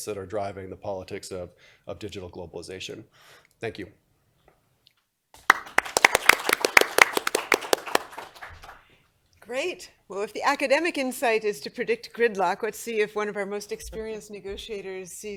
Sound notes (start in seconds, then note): 5.3 applause